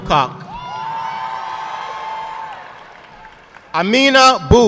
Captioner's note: audience clapping